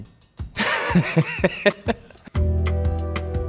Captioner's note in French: rire